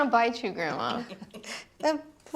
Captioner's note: Beverly chuckles